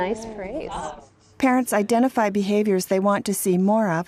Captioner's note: voiceover